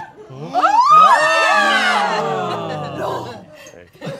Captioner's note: all exclaiming